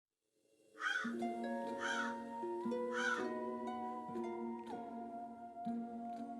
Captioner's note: crow cawing; creepy music